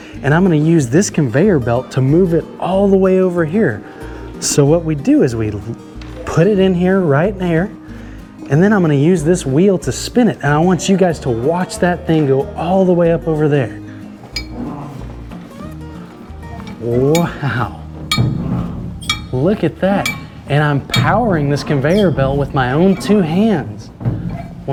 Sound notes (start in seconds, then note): 18.9 bell dinging